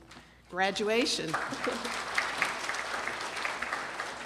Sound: applause

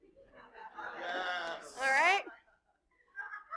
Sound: laughter

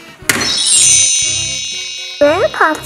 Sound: wand chimes

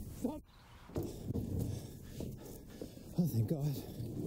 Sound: breathing heavily

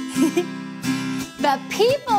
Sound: chuckling

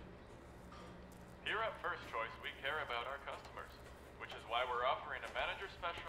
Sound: ad on speakers

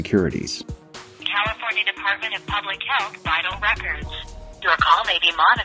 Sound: phone - Recorded Intro

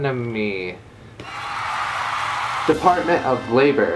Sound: applause

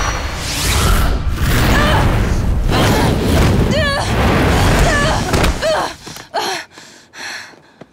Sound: grunting

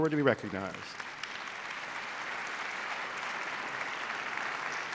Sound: applause

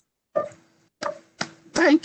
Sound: claps

